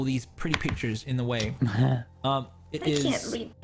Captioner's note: laughs